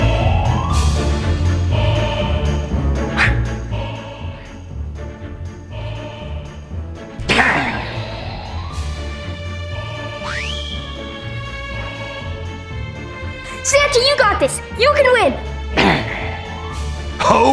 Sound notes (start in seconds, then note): 0.1 action music; 7.2 Grinch growling; 15.8 Grinch growling